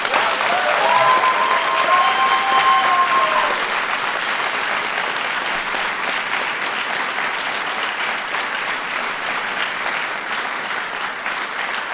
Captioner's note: applause